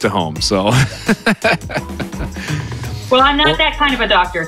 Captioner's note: laughs